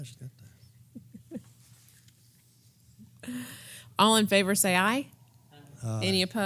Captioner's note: laugh